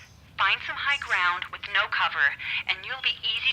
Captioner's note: birds cawing